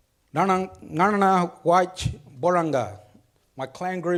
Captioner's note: speaks foreign language